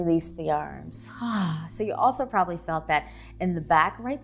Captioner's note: sighs heavily